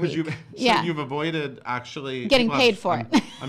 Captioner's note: laughing